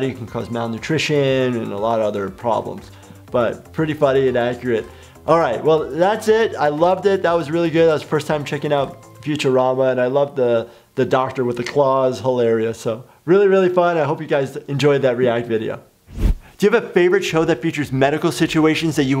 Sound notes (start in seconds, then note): none